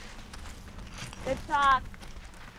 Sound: footeps

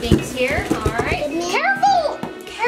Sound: hands thumping

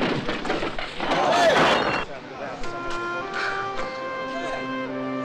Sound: pottery shattering

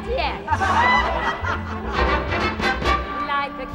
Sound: revelers laughing; bright band music

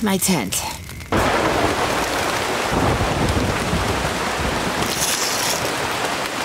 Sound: heavy rainfall; thunder crashing

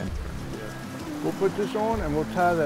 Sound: fishermen talking

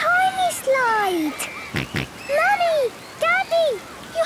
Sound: George snorts

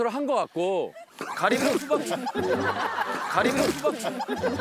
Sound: spewing

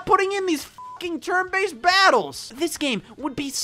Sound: beep

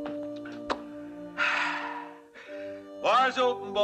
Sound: sighs

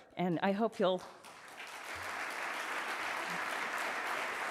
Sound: audience applauds

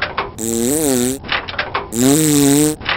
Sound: click; engine revs; click; engine revs

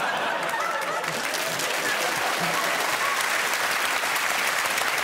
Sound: audience cheers and claps

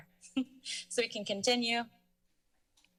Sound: chuckle

